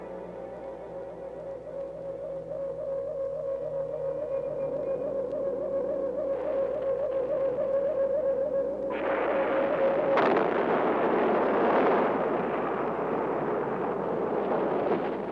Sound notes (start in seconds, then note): 8.9 bombs exploding